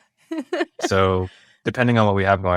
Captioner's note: laughs